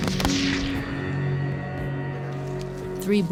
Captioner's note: gunshots